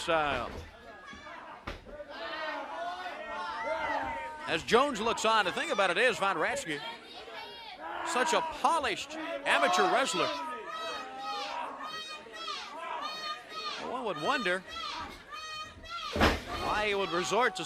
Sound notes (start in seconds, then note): 5.1 crowd chatter; 11.4 crowd chatter